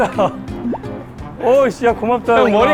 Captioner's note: pbbbtt